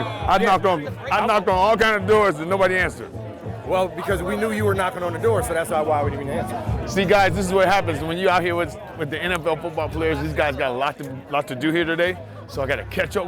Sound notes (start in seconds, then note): none